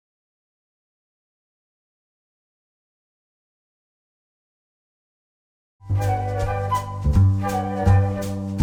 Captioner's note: whooshing sounds